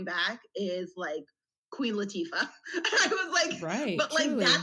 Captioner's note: laughs